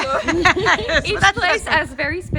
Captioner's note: laughing